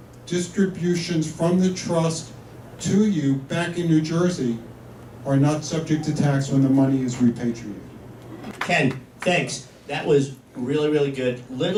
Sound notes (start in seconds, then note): 8.1 applause